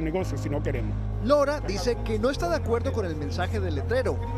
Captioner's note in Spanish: HABLA EN INGLéS